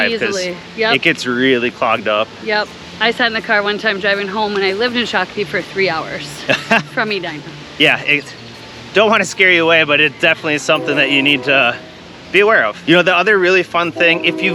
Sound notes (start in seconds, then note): 6.4 laughing